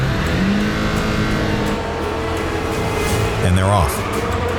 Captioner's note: engine revving